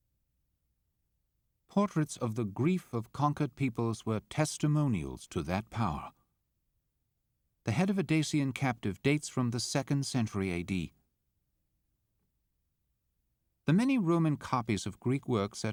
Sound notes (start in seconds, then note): 1.9 voiceover